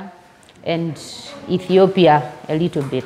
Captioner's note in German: Sie spricht auf Englisch fertig